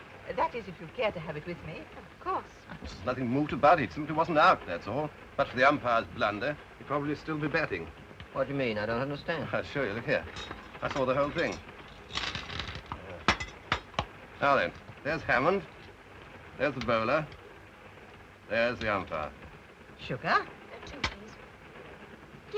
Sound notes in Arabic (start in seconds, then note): 12.0 مكعبات السكر تتناثر